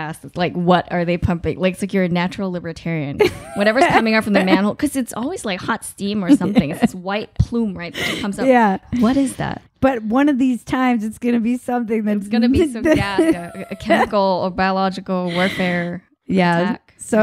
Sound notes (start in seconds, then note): 3.2 laughing; 12.8 laughing